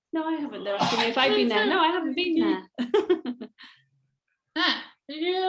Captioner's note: chuckles